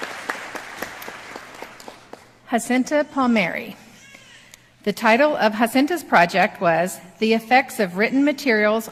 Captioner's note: applause